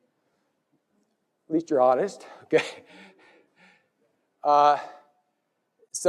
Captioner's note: laugh